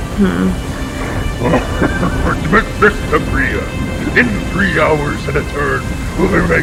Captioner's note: yelling